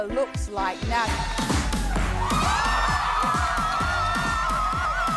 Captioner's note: crowd cheering